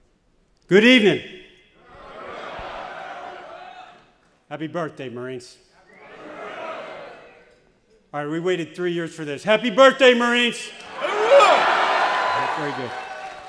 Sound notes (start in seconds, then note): 5.9 audience exclaiming; 10.8 audience shouting